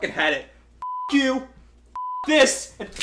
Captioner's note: beep